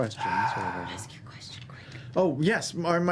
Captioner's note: whispering